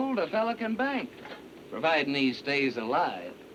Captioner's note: none